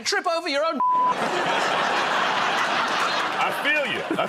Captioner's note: laughter